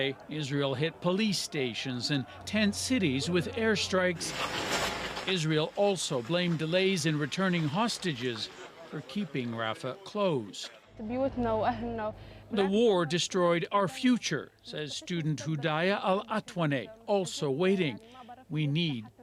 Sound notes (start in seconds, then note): 13.8 speaking alternate language